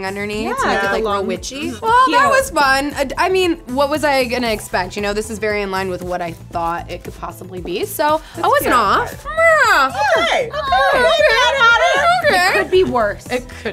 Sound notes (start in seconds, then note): 8.8 moaning